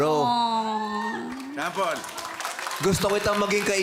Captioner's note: cheering, applause